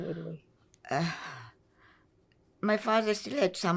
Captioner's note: sighing